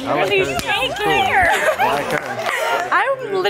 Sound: clapping

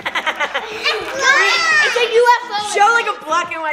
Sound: overlapping chatter

